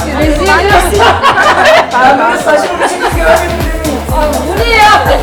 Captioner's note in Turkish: kahkaha